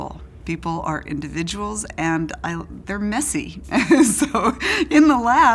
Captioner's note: laughs